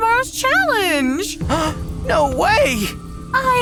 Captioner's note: gasps